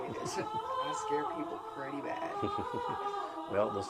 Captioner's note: laughing